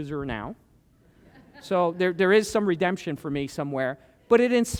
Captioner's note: laughter